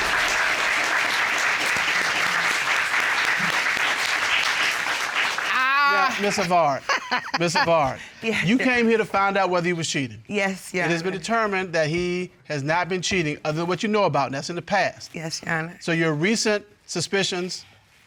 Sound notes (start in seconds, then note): 5.4 laughs